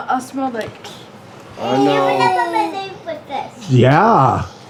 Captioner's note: toddlers babbling